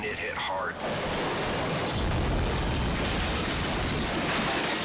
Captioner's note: cars crashing